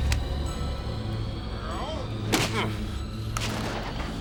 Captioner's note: grunts; body Thuds